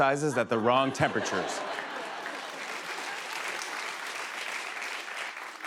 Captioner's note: laughter, applause